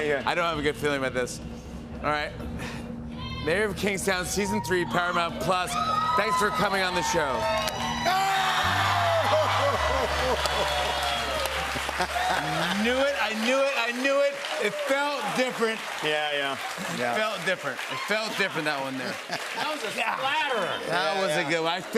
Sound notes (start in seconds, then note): 8.4 chuckles; 9.8 cheers and applause